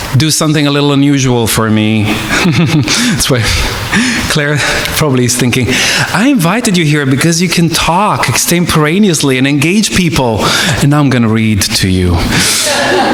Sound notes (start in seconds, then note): 2.1 chuckles; 12.3 audience laughing